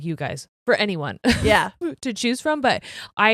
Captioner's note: chuckles